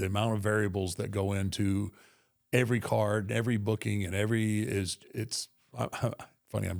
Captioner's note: chuckles